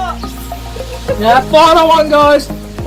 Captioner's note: squeals